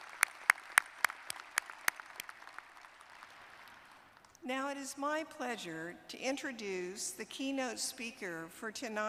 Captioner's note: applause